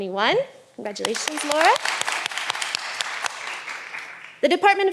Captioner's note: all applauding